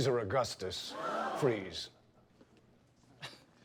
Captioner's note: gasps; laughs